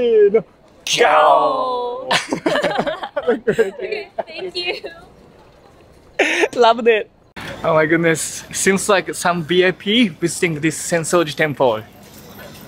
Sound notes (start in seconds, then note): 2.1 all laugh